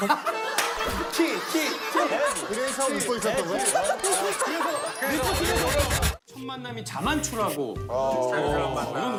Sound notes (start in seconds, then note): 0.7 chuckles